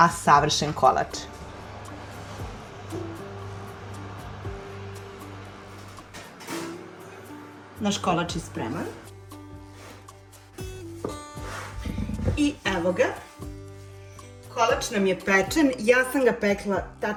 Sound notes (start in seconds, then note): 11.6 snort